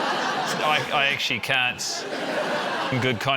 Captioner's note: laughter